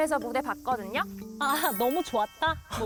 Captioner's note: counting chickens sound effect